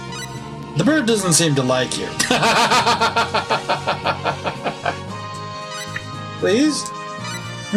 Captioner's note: laughs